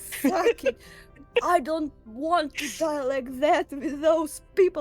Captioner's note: laughs